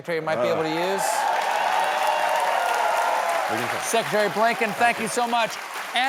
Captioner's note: applause